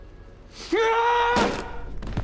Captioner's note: yells